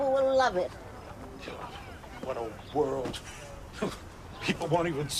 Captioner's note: scoffs